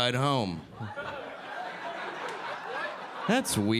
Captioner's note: audience laughing